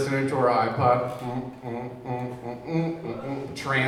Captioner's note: man humming